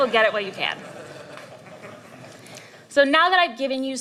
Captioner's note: laughter